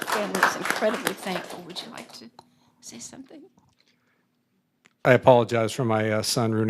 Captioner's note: applause